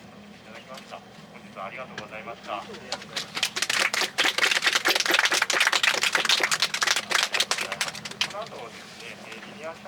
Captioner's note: applause